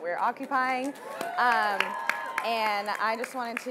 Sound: audience applauding

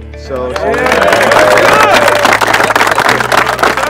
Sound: applause

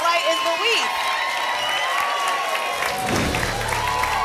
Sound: applause and cheering cont

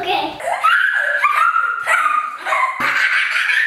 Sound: squeals; laughter; squeals

